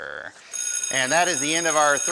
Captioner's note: buzzing